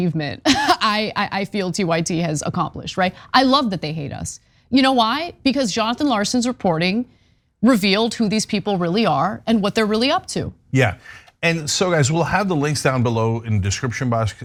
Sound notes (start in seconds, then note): 0.4 laugh